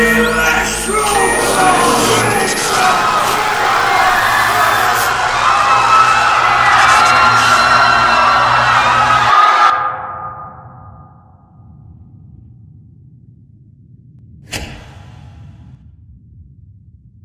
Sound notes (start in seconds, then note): 14.3 stage lights thunk off